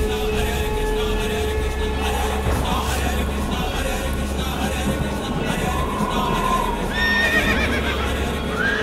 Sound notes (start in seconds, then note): 5.6 horses neighing